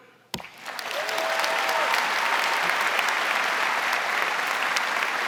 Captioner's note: audience applauding